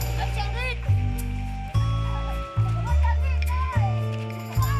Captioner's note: people chattering